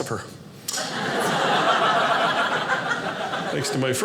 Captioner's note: audience laughing